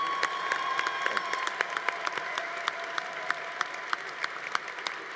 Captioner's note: congregation applauding